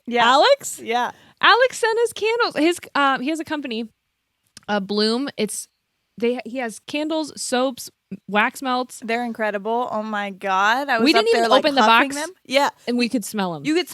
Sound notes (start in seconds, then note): none